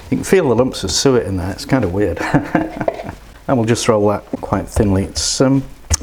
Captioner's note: laughs